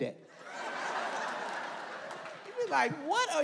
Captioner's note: audience laughs